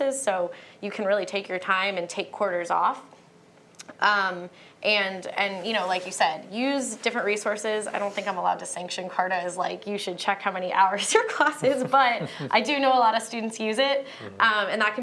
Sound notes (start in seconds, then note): 11.2 laughter